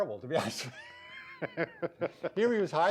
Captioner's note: both laughing